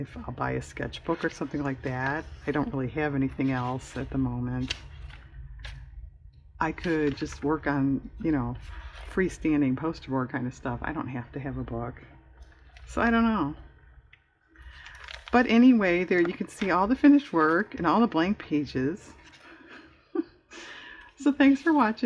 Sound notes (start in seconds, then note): 19.6 laughs